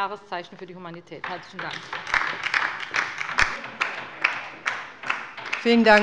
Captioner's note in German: Beifall bei der LINKEN